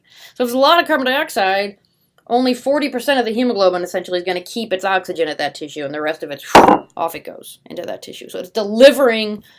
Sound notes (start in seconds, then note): 6.5 drops mug